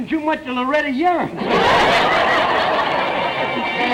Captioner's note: audience laughter